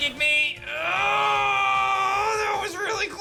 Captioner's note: grunts